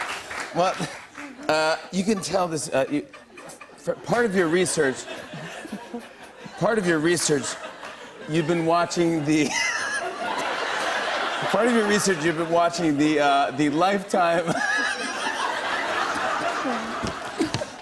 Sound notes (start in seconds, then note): 0.0 laughter; 2.9 light laughter; 9.3 laughter; 14.4 laughter